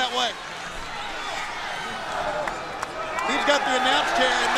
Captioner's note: crowd chatter